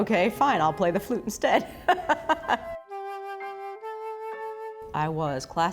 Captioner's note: laughing